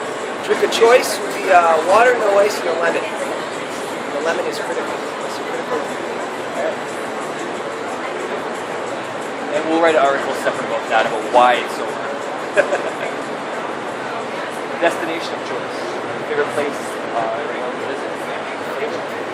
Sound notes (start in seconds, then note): 12.5 laughs